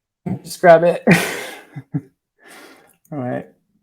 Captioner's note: laughing